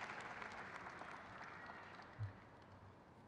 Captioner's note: crowd claps